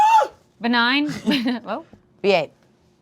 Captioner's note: chuckles